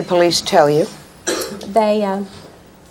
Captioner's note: audience member coughing